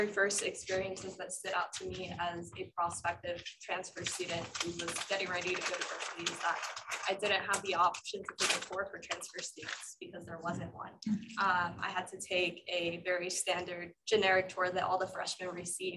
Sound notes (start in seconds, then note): 11.1 interference in the background